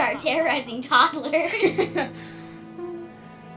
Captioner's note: they laugh